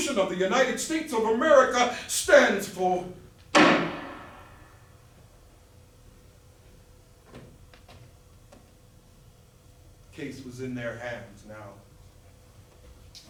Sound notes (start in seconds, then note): 3.5 gavel